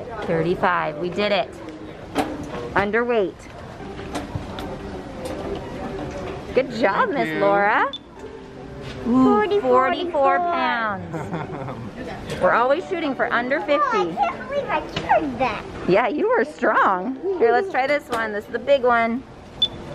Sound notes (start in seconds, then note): 7.8 machine beeping; 10.8 attendant laughing